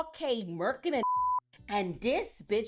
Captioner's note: beep